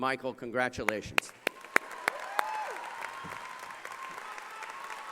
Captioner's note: cheering and applause